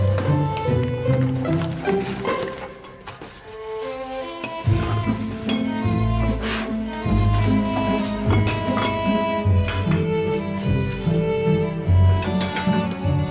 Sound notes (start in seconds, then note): 0.0 tape ripping; 0.0 cardboard ruffling; 6.9 plates clanking; 10.0 bowls clanking